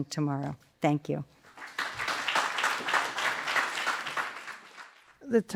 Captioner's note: applause